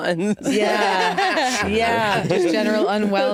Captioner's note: all laughing